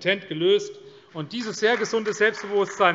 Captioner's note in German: Beifall CDU